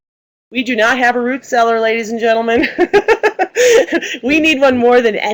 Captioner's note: laughs